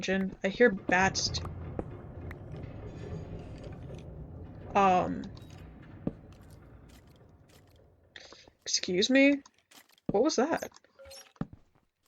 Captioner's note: ominous metal sounds